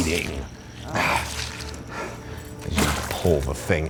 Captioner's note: breathing heavily